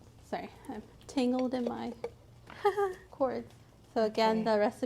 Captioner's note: laughs